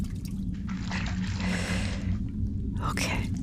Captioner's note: splashing